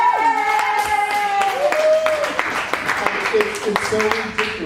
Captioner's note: applause